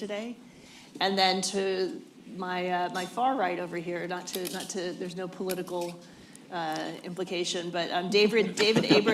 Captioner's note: laughter